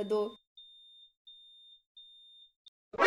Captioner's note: beep